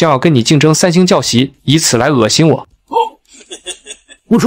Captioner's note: chuckles